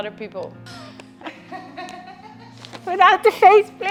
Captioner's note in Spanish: risas